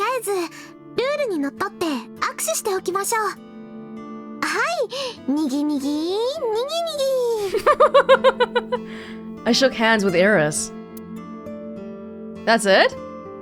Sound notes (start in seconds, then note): 7.4 laughs